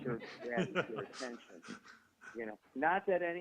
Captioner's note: laughing